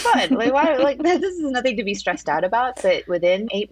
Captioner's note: laughs